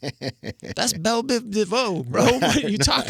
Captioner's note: laughing